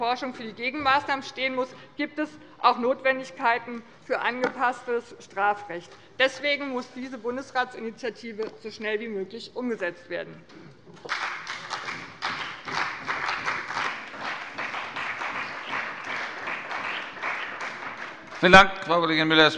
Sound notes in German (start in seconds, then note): 11.0 Beifall bei dem BÜNDNIS 90/DIE GRÜNEN und der CDU